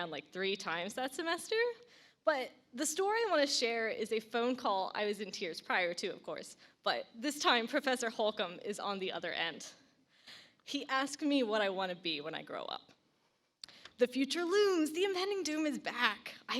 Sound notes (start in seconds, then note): none